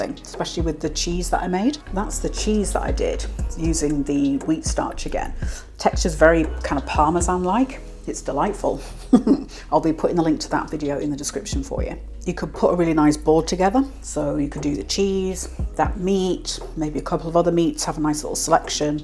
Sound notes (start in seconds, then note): 8.8 laugh